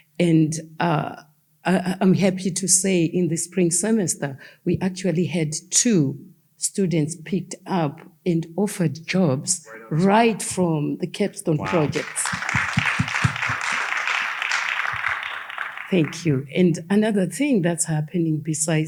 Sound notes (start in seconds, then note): 11.6 audience applauding